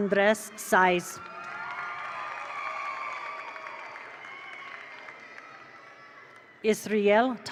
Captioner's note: attendees cheer; attendees applaud